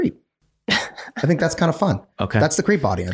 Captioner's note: laughs